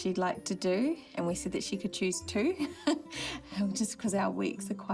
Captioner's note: laughs